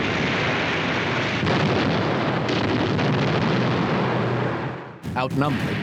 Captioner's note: artillery booming